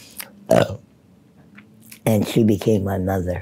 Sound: belches loudly

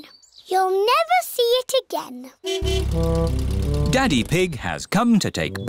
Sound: horn honking

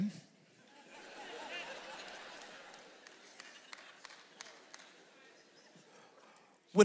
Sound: audience member claps; audience laughs

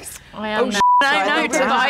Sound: beep

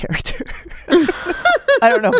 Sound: laughter

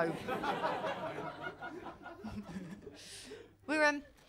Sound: laughter

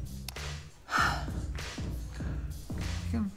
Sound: sighs

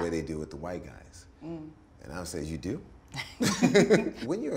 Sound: both laugh

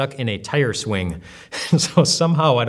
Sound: laughs

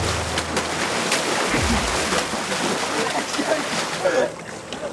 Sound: angry water splash

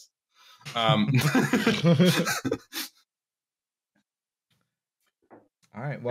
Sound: laughter

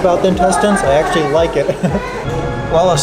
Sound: chuckles

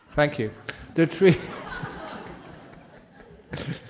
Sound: laughter

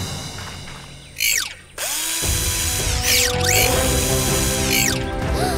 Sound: drill running

